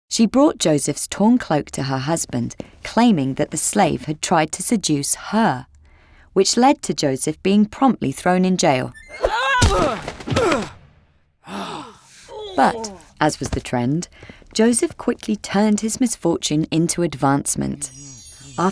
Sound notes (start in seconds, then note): 9.1 Joseph screams; 11.4 Joseph grunts